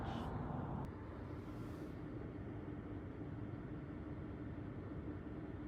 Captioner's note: car engine noises